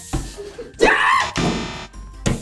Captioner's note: screaming